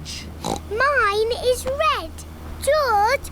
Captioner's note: oinks